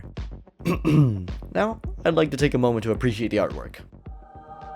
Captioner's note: ahem